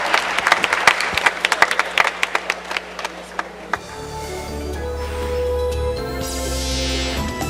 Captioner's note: applause